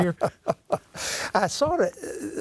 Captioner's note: laughing